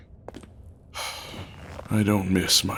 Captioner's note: sounds of sitting